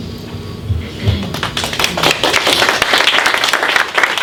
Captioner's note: clapping